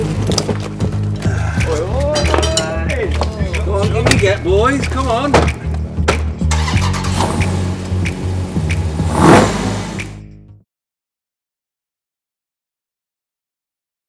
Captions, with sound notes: -OY OYYY! C'MON, IN YA GO BOYS, COME ON (CAR STARTS)